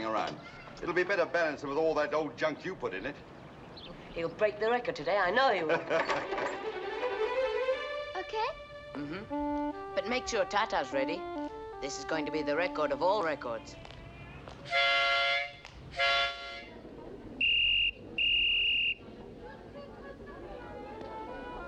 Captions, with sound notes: It'll be better balanced than all the old junk you put in it. He'll break the record today, I know he will. - OK? - Uh-huh. But make sure Tatave's ready. This is going to be the record of all records. [trumpet blowing] [whistle blowing]